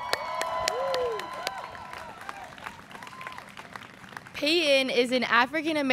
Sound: students cheering

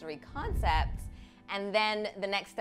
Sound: quiet music; scene whooshing

